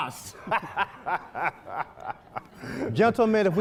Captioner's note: laughing